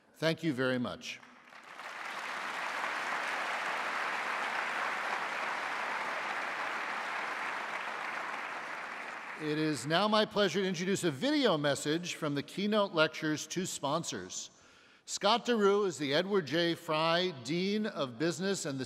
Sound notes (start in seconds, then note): 1.4 audience applauding